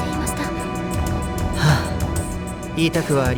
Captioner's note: sigh